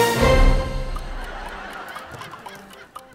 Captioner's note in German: Lachen; Schelmische Musik